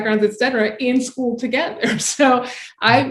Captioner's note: chuckling